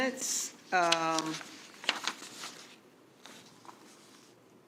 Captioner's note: pages rustling